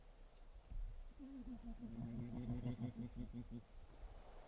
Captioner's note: bears grunting